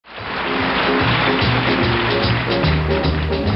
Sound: audience applauding

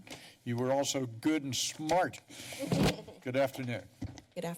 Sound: laughs

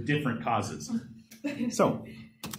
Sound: laughter

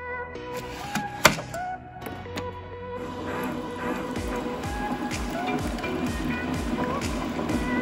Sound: coffee maker latches; coffee pours

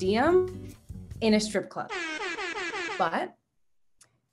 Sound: airhorns

